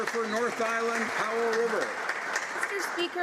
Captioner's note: some Applause